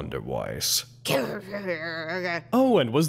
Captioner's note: babbling